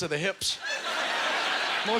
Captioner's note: audience laughter